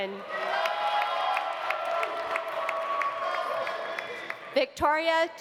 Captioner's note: audience cheering; audience applauding